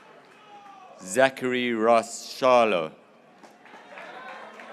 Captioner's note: graduates cheering